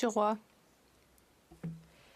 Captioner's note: speaking French